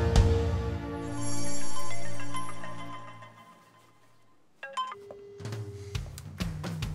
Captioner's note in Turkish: Telefon çalar